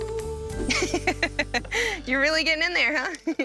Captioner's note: laughing